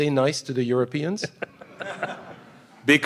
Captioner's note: laughter